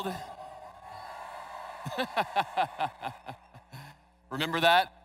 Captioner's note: laughs